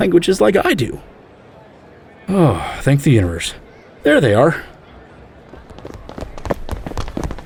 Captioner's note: running footsteps